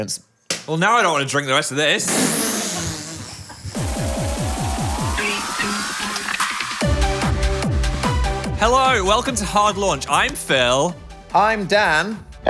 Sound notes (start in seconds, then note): 2.2 both laugh; 4.1 upbeat music; 6.4 upbeat music